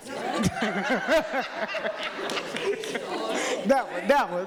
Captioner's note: people laughing